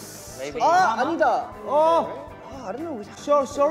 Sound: exclaims

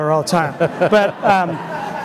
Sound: crowd laughs

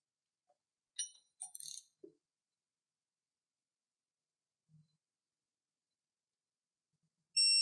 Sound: silence

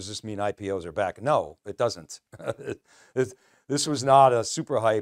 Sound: laughing

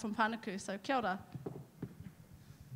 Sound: speaking in foreign language

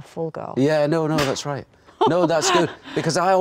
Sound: Nicole laughs

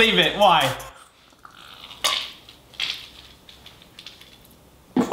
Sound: mustard squirting

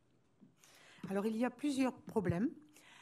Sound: speaking french

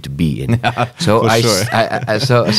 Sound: laughs

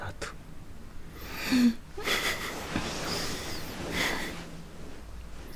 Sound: Youngwon and Jiwoo laughing

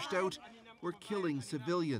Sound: speaking French

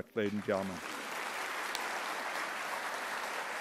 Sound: applause

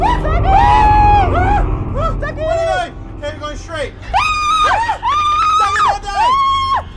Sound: screams

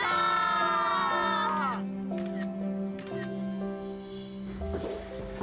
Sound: camera clicking

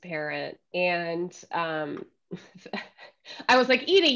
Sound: laughing

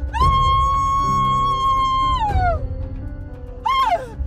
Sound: none

